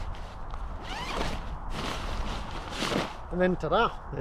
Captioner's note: zipper buzzing